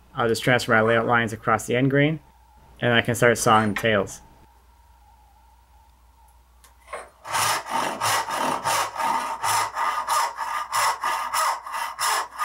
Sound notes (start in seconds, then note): 7.2 saw scrapes